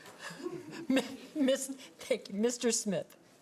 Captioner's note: laughs